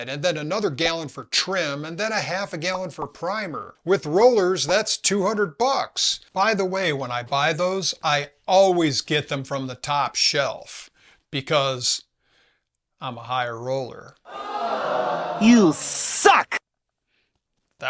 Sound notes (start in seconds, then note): 14.7 augh!